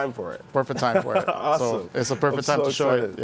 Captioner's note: laughing